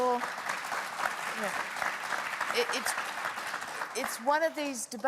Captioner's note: applause